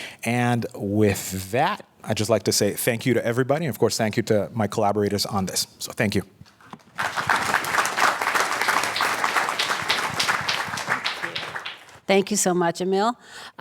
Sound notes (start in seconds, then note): 6.8 applause